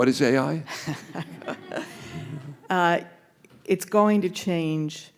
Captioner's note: all laughing